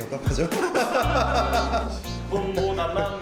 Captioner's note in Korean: 웃음소리